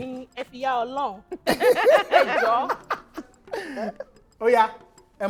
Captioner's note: everyone laughs